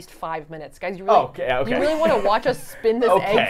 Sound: laughs

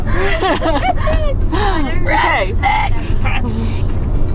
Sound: all repeat

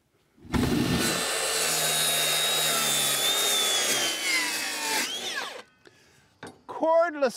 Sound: machine whirring

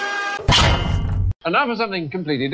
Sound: clang!

